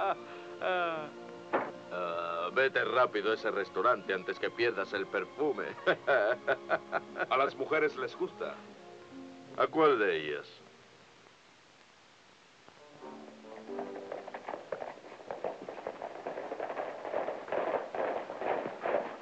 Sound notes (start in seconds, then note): 5.7 laughs; 11.6 upbeat music